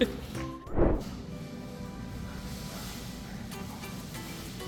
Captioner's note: thud